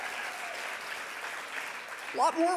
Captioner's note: audience applauding